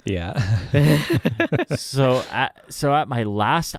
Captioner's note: laughing